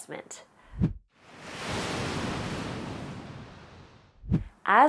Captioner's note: sound of waves crashing